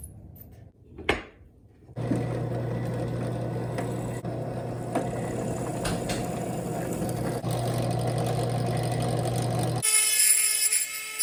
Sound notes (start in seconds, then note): 2.6 drilling noise